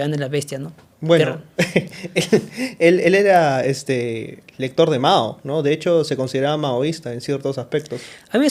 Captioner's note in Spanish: risas